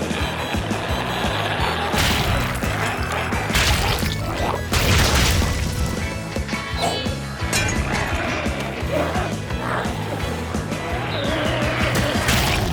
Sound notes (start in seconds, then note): 0.1 energetic music continues; 1.9 goo splatters; 6.1 energetic music continues; 9.3 glowzies growling